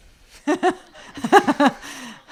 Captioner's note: laugh